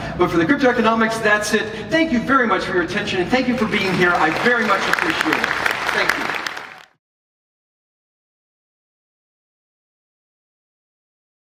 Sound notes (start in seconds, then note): 7.4 applause